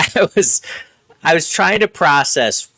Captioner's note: laughing